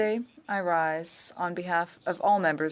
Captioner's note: speaking French